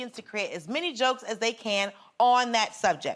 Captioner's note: none